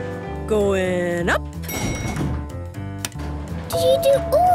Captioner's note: elevator pings